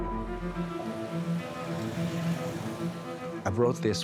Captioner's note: traffic humming